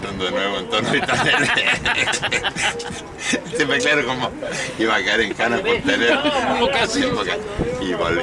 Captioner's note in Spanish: risas